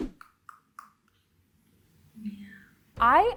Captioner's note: teeth chattering